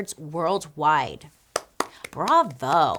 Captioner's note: clapping